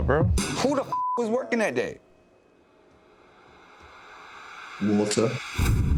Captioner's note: beeps